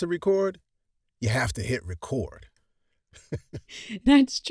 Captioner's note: laughs